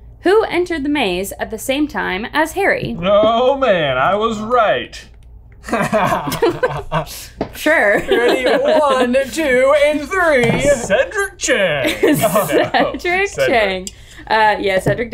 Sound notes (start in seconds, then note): 5.6 laughs; 14.1 laughing